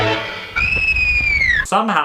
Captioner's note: shrieks